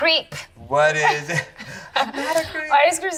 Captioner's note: chuckles